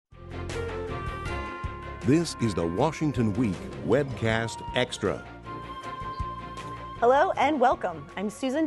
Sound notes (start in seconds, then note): 2.5 voiceover